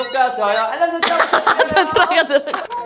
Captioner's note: notification bell